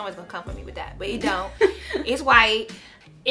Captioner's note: laughs